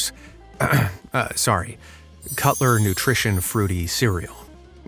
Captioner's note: ahem